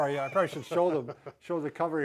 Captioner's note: chuckles